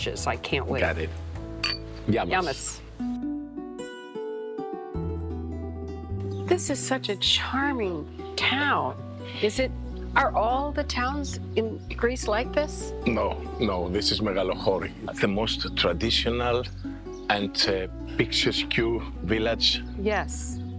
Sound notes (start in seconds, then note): 1.6 glasses clinking; 3.2 gentle acoustic music